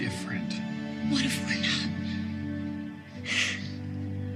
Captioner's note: sniffles; soft music